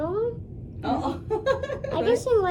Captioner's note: laughs